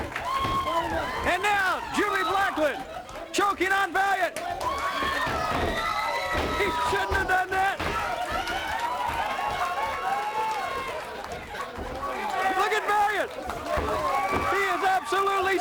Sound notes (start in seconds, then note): 2.0 crowd cheering; 10.4 crowd cheering